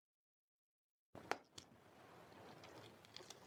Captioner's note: egg cracking